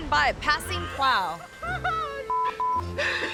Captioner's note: laughing